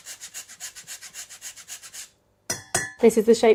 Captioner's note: zester grating; utensils clanging